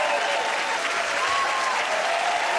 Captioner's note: cheers and applause